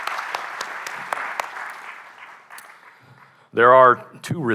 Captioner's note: applause